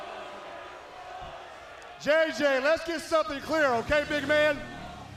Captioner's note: crowd chatter